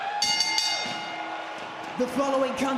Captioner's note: bell rings